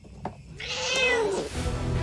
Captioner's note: meow; snarls